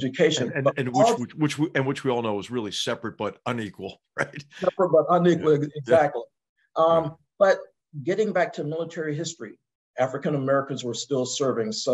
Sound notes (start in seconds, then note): 4.2 laugh